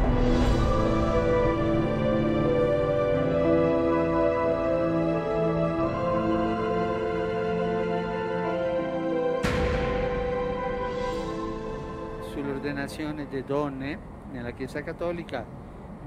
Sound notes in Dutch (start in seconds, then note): 9.1 door slams shut; 12.1 in Italian